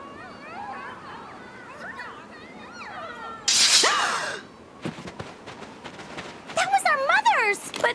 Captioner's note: muffled grunting